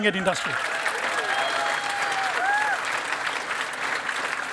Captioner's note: cheering and applause